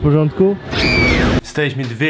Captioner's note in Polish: krzyk